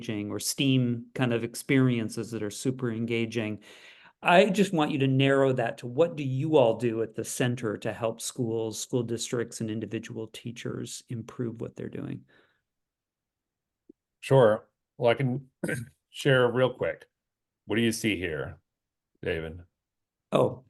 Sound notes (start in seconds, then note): 15.6 cough